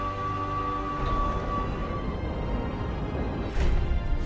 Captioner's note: machine beeps